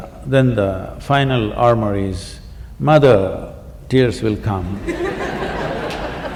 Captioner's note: laughter